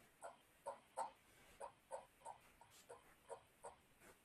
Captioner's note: scrolling